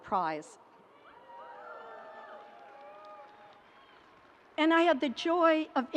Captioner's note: audience cheering